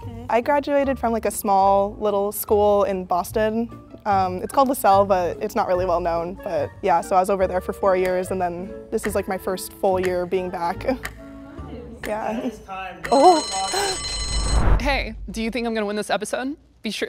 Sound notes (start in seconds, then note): 13.0 bell rings